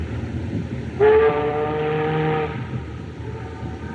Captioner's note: ship's Horn Blows